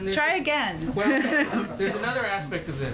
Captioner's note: laughter